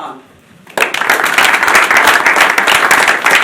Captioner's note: applause